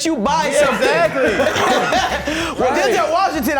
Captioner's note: all laughing